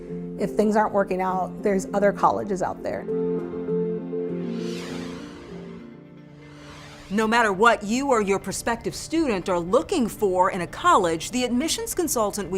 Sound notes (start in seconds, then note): 3.8 gentle music; 4.4 graphics whoosh